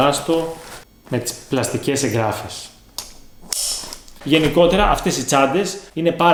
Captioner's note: roll-n snap closure